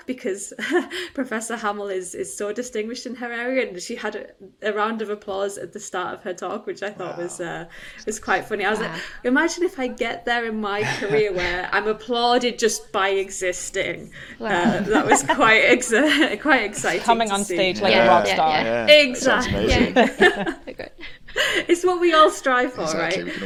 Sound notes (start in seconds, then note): 14.5 panelists laughing; 19.9 laughs; 20.5 panelists laughing